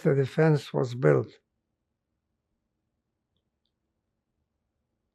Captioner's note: pauses 6 seconds